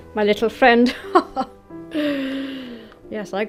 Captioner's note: chuckles